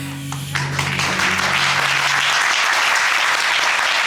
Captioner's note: audience applauding